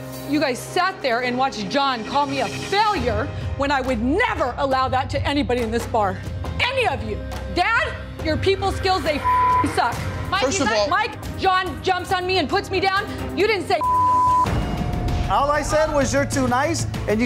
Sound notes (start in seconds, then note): 9.2 beep; 13.8 beep